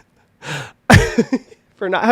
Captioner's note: laughing